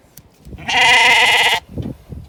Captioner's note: sheep BAAAAAAA